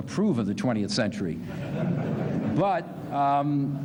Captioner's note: laughter